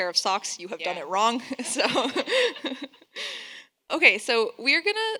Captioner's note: laughs